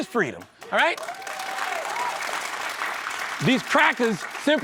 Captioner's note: cheering and applause